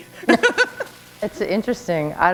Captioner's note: chuckle